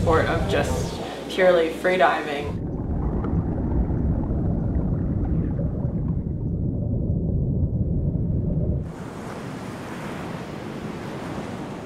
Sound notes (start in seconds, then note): 2.8 water splashing; 8.8 waves crashing